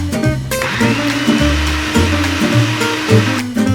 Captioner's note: blender